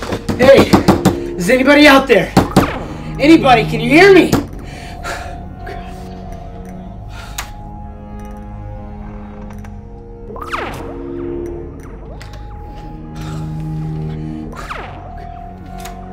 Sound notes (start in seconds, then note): 0.1 knocking on front door; 7.6 door knob squeaks